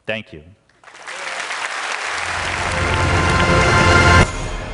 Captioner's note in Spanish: Aplausos